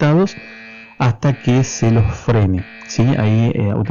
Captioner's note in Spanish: alarma de fondo